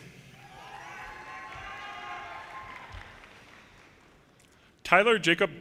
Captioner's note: audience cheers and applause